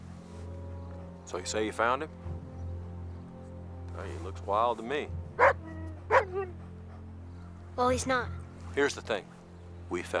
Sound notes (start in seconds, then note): 5.4 Buck barks